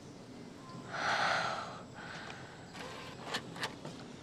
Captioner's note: Wanda sighs